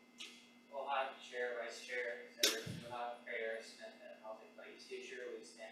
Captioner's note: faintly speaking